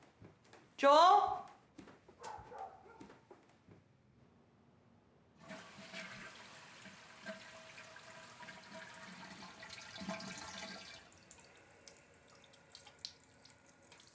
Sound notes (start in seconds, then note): 2.2 dog barking; 5.9 water splashing